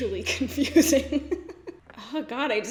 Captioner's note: laughs